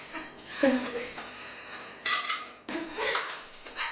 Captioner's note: both laughing